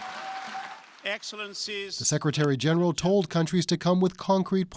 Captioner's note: applause